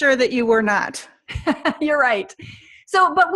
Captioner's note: laughing